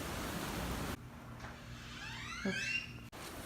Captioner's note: door Creaks